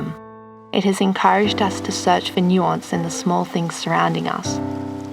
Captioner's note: waves lapping at shore